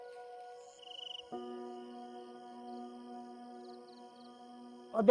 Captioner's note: birds chipping